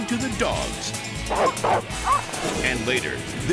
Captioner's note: dog barks